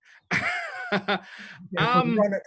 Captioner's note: laughs